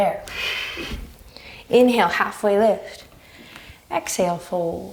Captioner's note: deep breaths; deep breaths